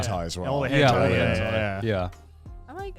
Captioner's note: laughs